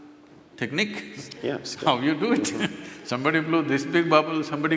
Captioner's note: laughs